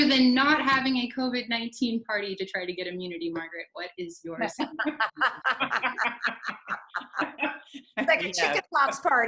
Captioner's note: laughter